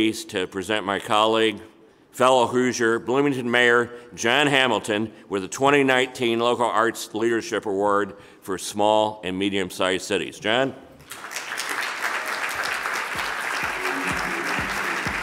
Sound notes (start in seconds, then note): 11.0 audience applauding